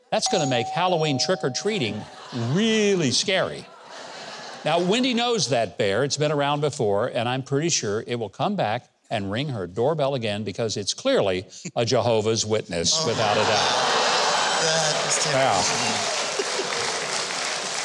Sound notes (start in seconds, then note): 3.6 audience laughs; 12.9 audience laughs